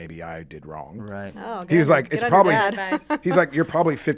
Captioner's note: laughs